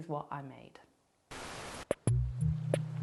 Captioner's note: TV static; laid-back music